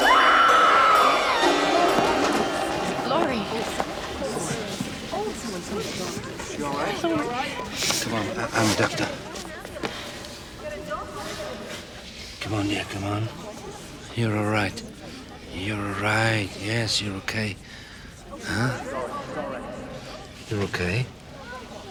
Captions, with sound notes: (Laurie screams) - Laurie. (crowd murmuring) - Is she all right? - Come on, I'm a doctor. Come on here, come on. You're all right, you're all right, yes, you're okay. Huh? You're okay.